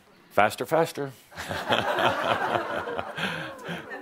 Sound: laughter

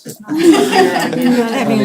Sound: laughter

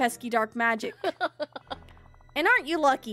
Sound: Mother Gothel Laughs

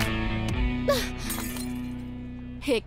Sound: glasses break

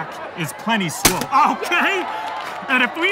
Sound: bam

